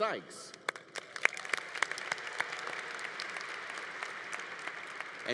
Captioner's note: congregation applauding